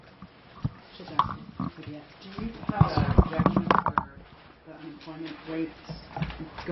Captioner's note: reporter talking